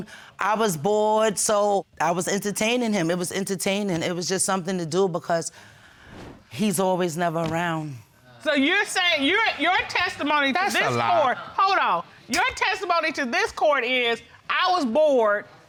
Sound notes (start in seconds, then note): none